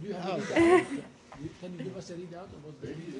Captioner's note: laughter